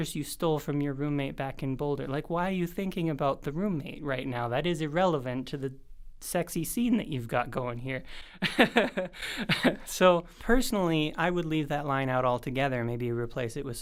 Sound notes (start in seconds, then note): 8.4 laugh